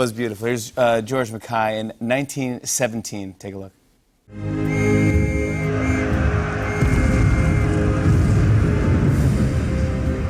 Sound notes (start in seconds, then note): 4.6 whistle blowing; 6.7 explosions